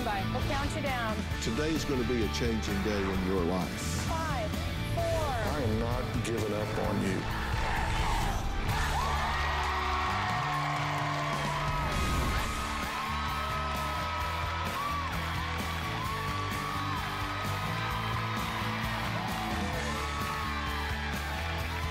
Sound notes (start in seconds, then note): 9.2 crowd chanting "dr. phil!"; 11.8 cheering and applause